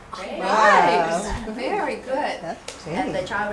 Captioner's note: background chatter